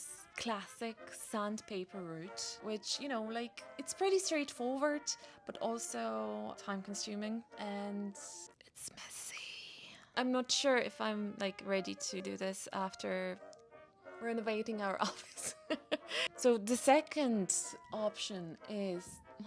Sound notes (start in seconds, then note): 8.2 whispers; 15.0 laughs